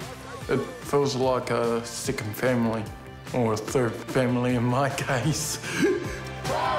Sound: laughs

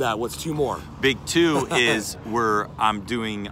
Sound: chuckles

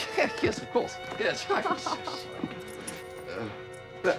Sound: Florence laughs

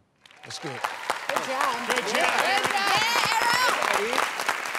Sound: cheering

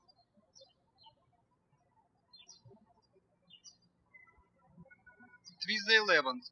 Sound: birds chirping

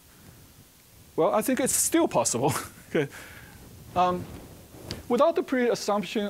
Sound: chuckling

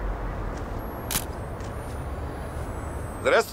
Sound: camera clicking

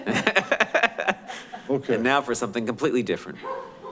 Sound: laughs

